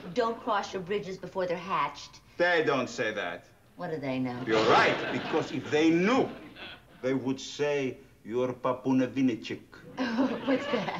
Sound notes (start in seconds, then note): 8.6 speaking russian